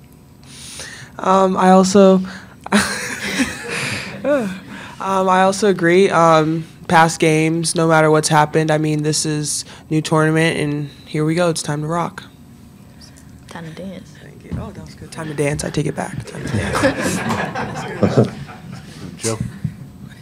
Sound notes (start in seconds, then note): 2.6 Aliyah laughs; 16.3 reporters laugh